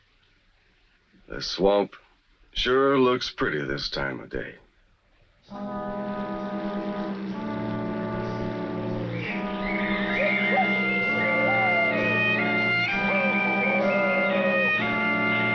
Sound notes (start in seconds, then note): 5.5 uneasy music; 5.7 boat engine rumbles